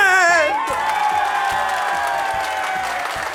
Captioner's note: applause and shouts of joy